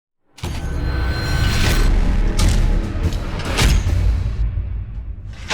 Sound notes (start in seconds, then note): 0.6 metal clanging